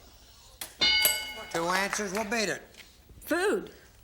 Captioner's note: bell; applause